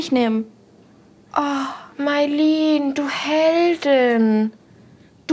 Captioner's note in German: sarkastisch